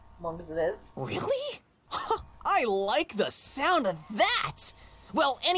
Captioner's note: chuckle